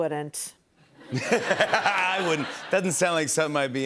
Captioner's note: laughter